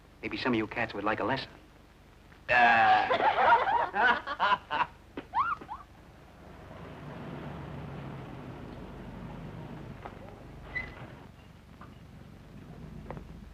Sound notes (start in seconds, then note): 2.6 group laughing